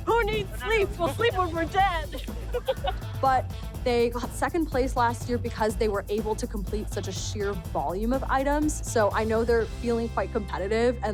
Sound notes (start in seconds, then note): 2.3 giggle